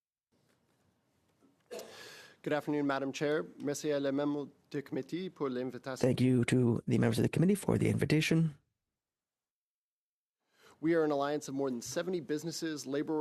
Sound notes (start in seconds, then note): 8.4 speaking French